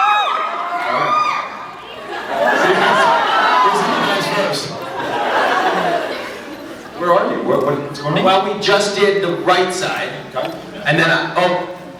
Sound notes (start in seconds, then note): 0.0 audience cheers; 1.9 laughs; 4.7 scattered laughs